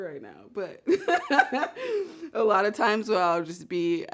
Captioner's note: laughs